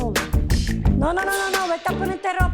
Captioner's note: speaking Spanish; speaking Spanish